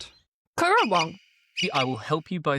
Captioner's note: currawong sounds